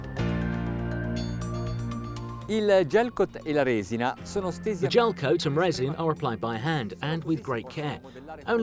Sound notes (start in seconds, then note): 2.5 speaks Italian